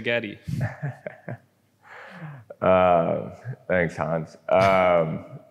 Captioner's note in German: lacht